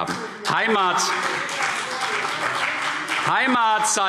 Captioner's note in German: Beifall CDU